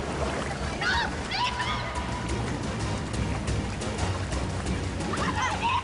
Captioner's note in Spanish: Gritos y exclamaciones; Sonido de la corriente más fuerte